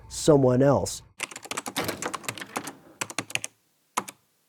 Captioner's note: typing